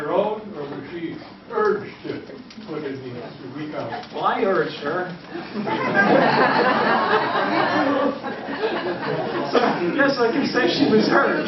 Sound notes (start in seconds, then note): 5.4 laughter